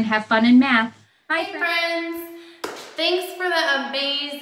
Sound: claps

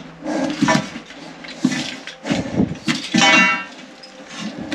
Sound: metallic clanking

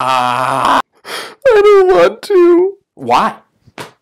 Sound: crying

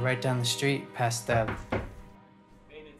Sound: knocking on door

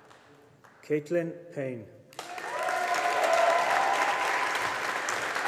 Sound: audience applauding

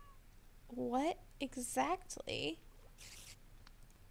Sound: none

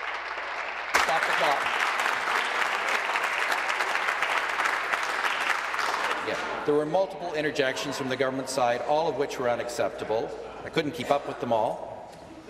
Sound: applause

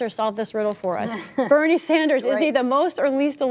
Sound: laughter

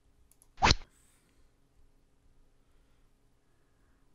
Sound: rod sound

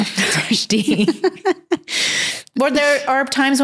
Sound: laughs

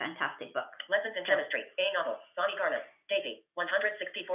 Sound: VoiceOver voice

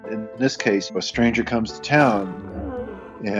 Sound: roaring

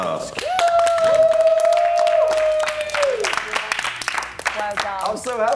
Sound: cheering

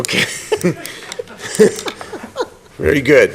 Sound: laughter

